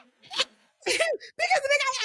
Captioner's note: laughing